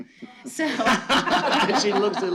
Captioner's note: laughter